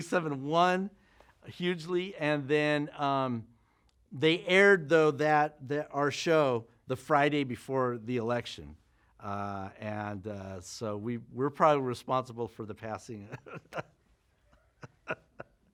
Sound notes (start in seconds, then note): 13.3 laughs